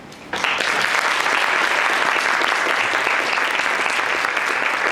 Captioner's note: audience applauds